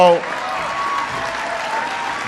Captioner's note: applause